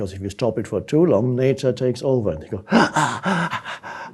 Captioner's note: exhales